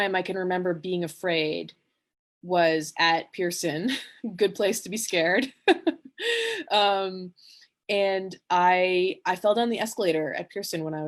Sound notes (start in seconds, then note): 5.3 she laughs